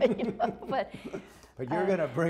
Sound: laughter

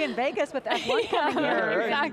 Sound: laughing

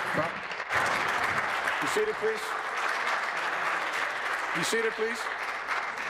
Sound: applause

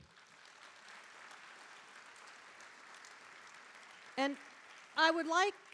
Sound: audience applauding

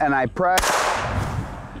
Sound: gunshot; whooshing

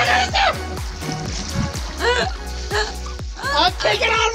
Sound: laughing

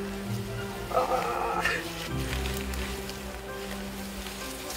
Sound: groans

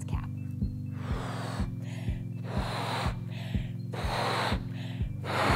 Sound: exhaling air loudly

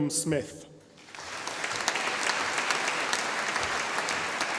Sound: audience applauding

